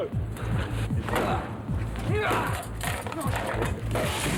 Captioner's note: banging on door